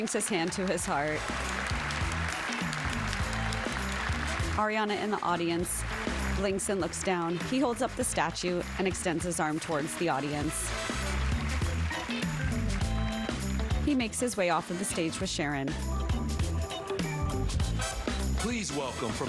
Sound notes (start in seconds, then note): 7.2 applause